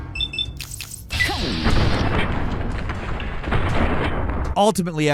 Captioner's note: electronics beeping